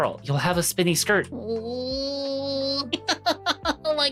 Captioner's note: crying